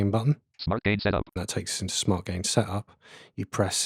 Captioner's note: automated voice